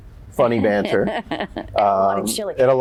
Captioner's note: chuckles